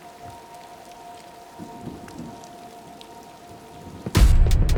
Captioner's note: rain pattering; thunder rumbling; dramatic music